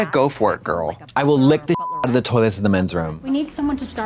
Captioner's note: beep